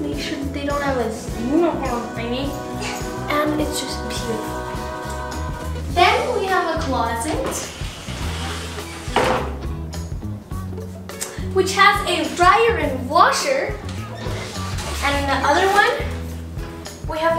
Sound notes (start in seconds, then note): 7.3 door opening